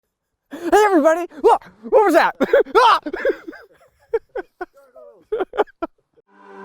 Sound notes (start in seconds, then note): 0.5 screams; 4.0 laughing